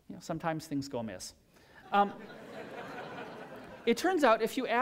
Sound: laughter

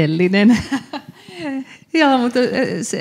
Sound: laughs

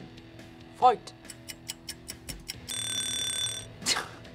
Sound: clock ticks; alarm blares; laughs

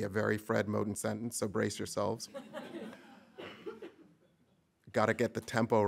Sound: audience laughing

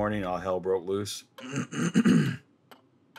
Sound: clears throat

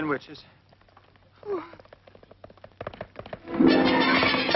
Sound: hooves clopping; dramatic orchestral music

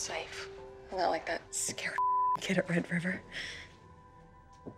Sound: beep

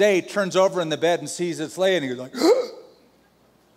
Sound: gasps

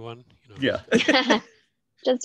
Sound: laughter

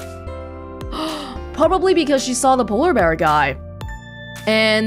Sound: gasps

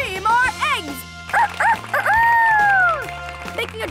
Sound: crows like a rooster

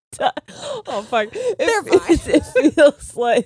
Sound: both laughing

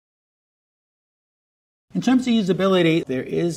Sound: none

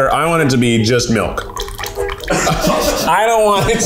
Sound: chowder milk pouring

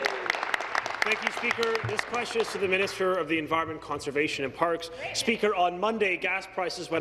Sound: applause

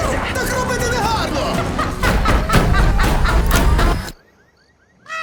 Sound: laughing maniacally; music stops; caws

